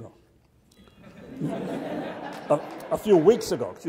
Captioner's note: audience laughs